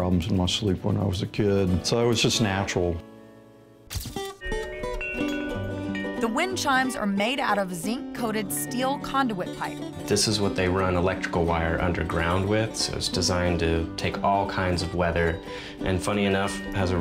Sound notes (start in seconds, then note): 4.4 wind chime